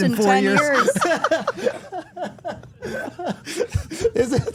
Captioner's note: everyone laughing